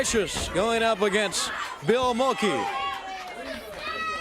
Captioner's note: crowd chatter